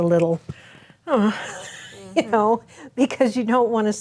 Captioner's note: gasps and chuckles